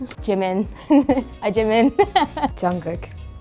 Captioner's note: laughs